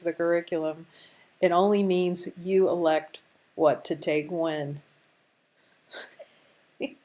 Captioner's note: laughter